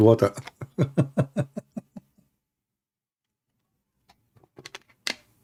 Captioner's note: Ketawa